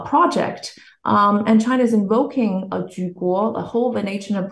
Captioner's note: speaks Chinese